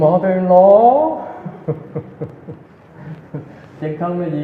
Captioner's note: laughter